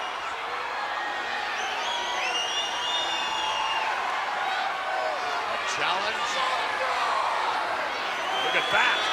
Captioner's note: applause